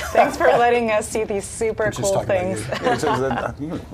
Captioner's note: laughter